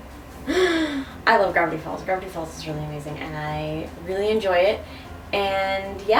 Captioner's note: inhales loudly